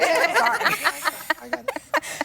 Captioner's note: laughter